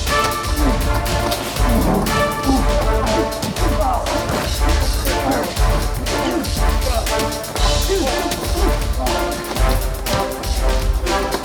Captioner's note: all grunting